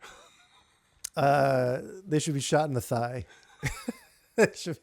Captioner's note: laughing